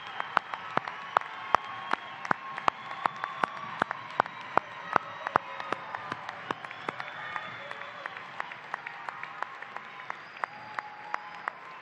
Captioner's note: cheers and applause